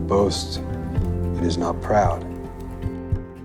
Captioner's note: voiceover